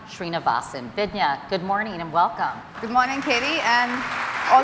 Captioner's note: applause